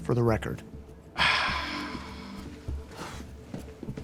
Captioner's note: sighs